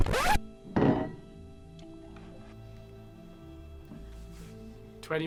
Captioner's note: audio scratches; spoon thumps